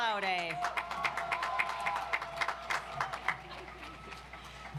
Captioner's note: audience applauds